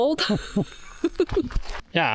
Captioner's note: laughing